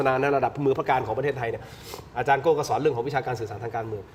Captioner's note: takes a deep breath